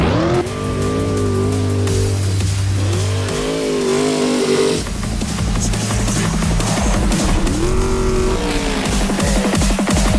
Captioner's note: off-road buggy engine revving. Uh oh boys